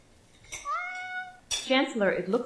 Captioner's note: cat meowing